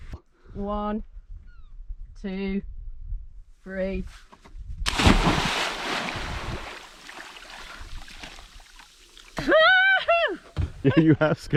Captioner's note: splash